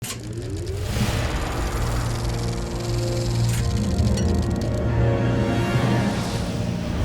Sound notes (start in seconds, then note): 2.1 film projector whirring over rousing orchestral music